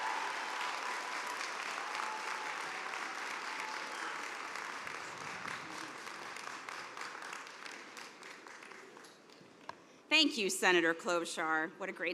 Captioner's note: cheers and applause